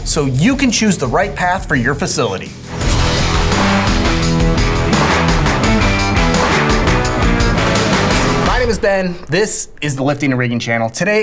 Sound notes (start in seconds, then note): 2.7 screen whooshing; 2.8 upbeat rock music